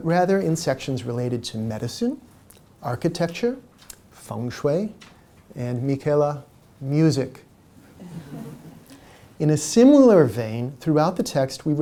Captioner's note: laughter